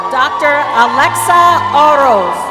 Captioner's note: applause